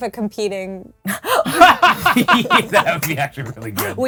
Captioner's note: group laughing